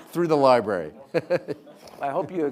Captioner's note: laughing